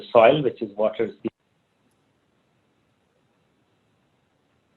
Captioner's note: microphone muted